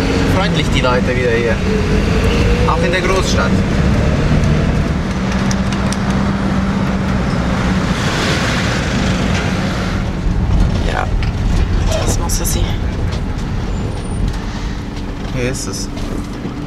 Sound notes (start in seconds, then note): 13.3 in Swiss German